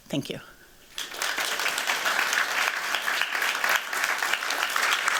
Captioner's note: applause